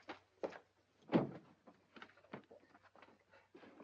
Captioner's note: door opens